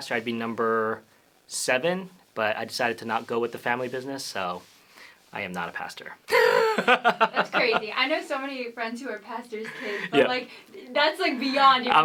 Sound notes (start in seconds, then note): 6.4 laughs